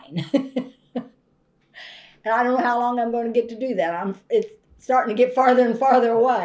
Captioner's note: laughs